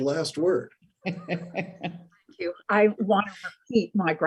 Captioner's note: laughing